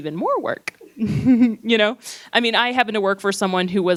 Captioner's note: laughs